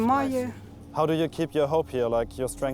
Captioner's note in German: englisch